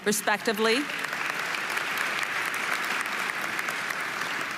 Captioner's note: audience applauding